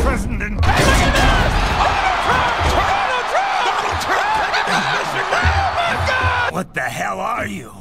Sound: Very much deserved ovation and cheering for Donald

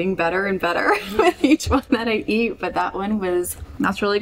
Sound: laughing

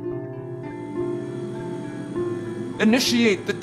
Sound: electrical whirring

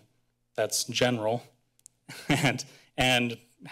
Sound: chuckles

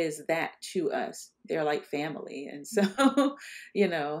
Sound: laughs

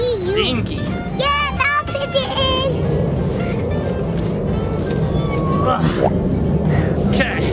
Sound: noises of effort

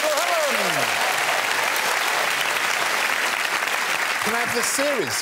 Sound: cheers and applause

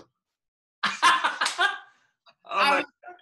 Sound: laughs

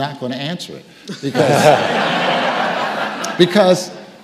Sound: audience laughing

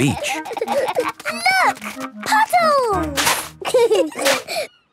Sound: giggling; laughter

